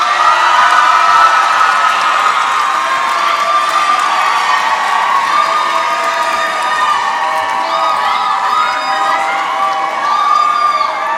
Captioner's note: applause